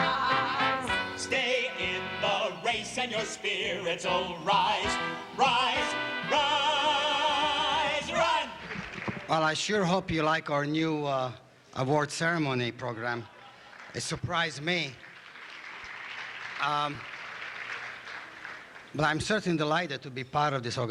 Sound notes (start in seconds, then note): 16.0 applause